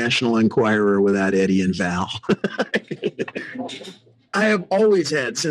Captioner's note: laughing